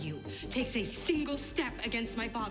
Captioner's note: none